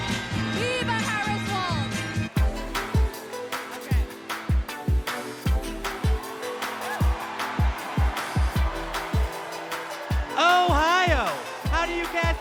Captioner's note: cheers and applause